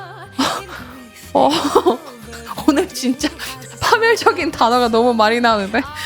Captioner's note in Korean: 웃음